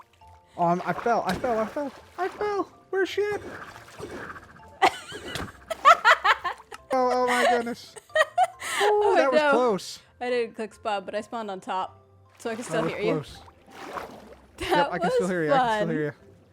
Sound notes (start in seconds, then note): 4.8 laughs